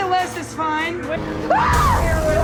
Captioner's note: screaming